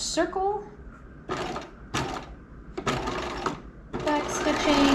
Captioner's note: sewing machine whirling